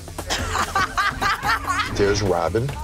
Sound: laughing

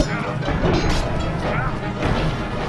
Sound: wooshing

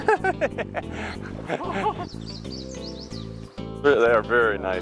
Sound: laughing

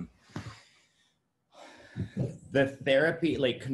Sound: exhales sharply

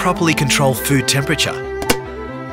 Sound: lid clicks closed

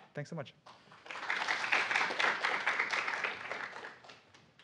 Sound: applause

